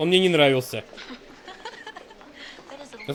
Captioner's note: laughs